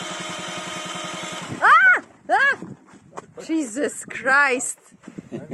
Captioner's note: screaming